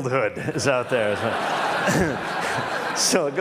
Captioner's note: Laughter